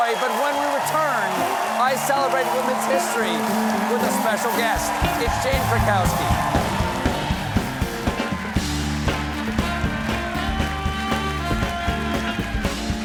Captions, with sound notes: BUT WHEN WE COME BACK, I CELEBRATE WOMEN'S HISTORY WITH A SPECIAL GUEST. ( CHEERS AND APPLAUSE ) ( BAND PLAYING )